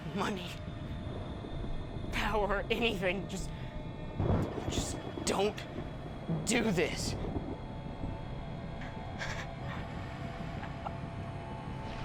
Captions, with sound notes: Money, power, anything. Just, just don't do this. (thunder rumbling) (Noah whimpering)